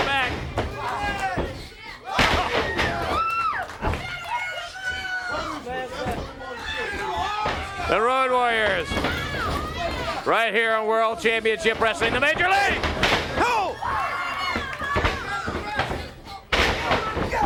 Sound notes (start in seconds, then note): 2.0 crowd cheering; 2.8 crowd chatter; 17.2 crowd chatter